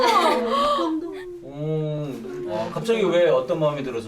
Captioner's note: awww